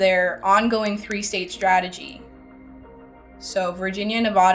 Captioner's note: words click